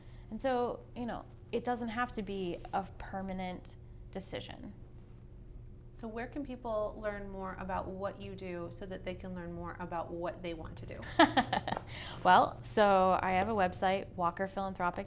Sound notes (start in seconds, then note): 11.0 laughs